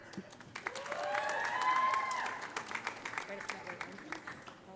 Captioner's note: audience applauding; audience cheering